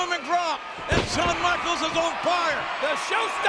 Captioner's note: body thudding